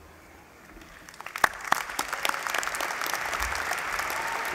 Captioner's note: applause